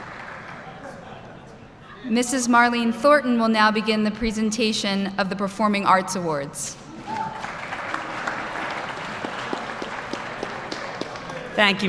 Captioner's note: applause